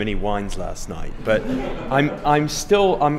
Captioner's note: laughter